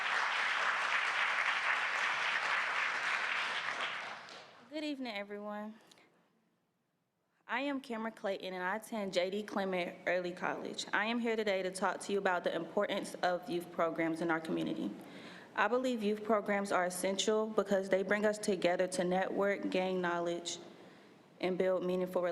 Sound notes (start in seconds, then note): 0.0 applause